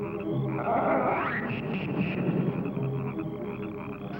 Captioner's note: croaking